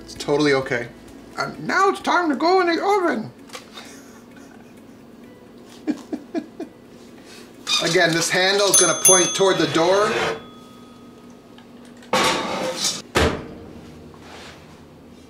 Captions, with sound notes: It's totally okay. And now it's time to go in the oven. (laughing) (squeaking) Again, this handles gonna (dinging) point toward the door (scraping) (thumping)